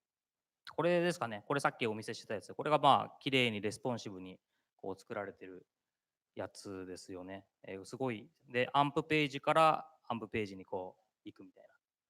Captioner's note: speaking japanese